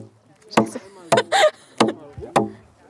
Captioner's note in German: Sie lacht